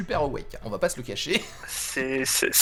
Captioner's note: laught